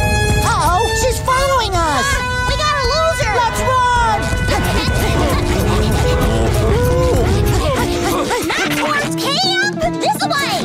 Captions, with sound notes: Uh-oh, she's following us. - Ah! We gotta lose her! - Let's run! [panting] [mooing] Not towards camp! This-a way!